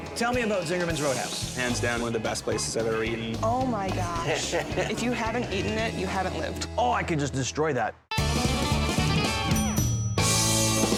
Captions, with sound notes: Tell me about Zingerman's Roadhouse. - Hands down, one of the best places I've ever eaten. - Oh my gosh. (John laughs) If you haven't eaten it, you haven't lived. - Oh, I could just destroy that. (lively music)